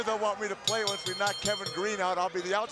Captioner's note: bell ringing